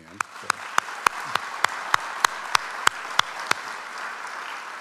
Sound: audience applauds

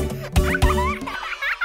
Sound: children giggling

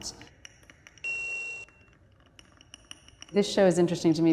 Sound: clicking and beeping

